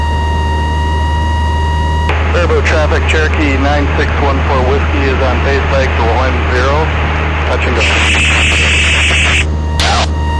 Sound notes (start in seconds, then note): 2.1 ATC chatter and static